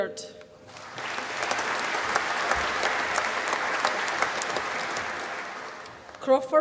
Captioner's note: applause